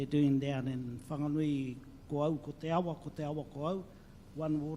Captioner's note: speaks in local language